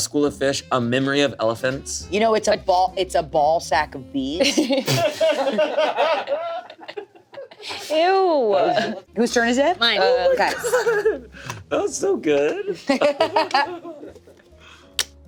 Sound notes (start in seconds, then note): 4.5 everyone laughs; 12.7 laughs